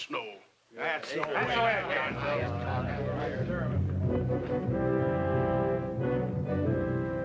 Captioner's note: men chatter; moody orchestral music